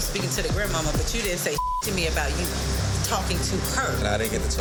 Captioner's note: beep